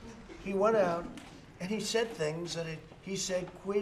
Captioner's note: laughter